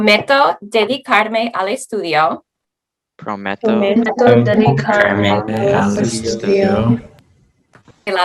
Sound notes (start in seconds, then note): 0.1 speaking Spanish; 3.4 group speaking Spanish